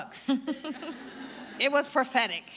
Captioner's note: audience laughing